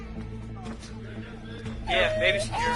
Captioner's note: baby crying